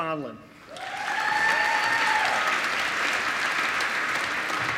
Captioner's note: applause